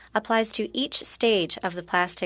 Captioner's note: speaking French